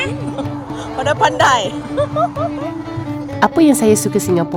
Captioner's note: laugh